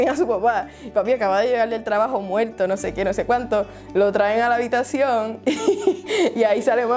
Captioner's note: laughs